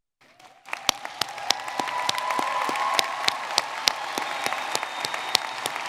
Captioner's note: audience cheering and clapping